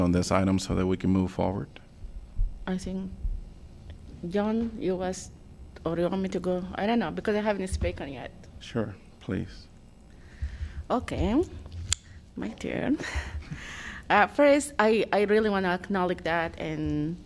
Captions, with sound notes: this item so that we can move forward. I'm think John US. I don't know because I haven't spoken yet. Sure, please. Okay. My turn. [LAUGHTER] First, I really want to acknowledge